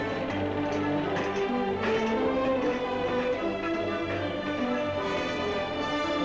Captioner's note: dramatic music; upbeat music; banging & clattering sounds; upbeat dramatic music